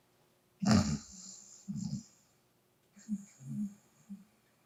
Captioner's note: sound of snoring